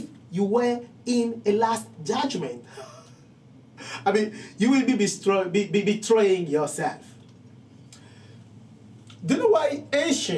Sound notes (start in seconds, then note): 3.2 laughing